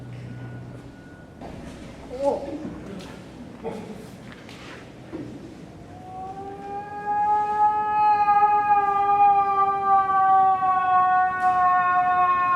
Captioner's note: moose call